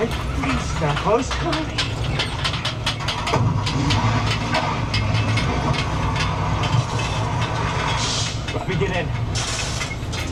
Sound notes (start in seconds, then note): 3.3 car engine whirring